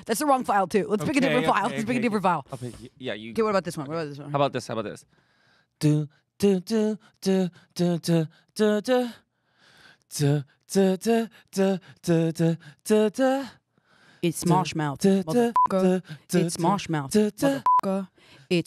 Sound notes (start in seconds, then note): 6.6 mimics melody; 15.4 beep; 18.0 beep